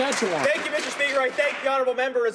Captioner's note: applause